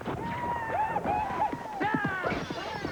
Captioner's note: yelling